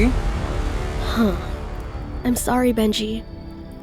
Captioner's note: sighs